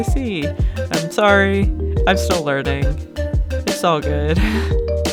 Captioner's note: laughs